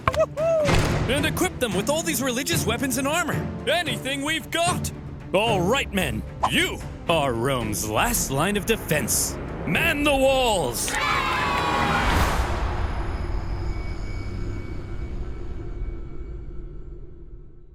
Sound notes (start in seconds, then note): 10.8 children cheering; 13.4 ominous music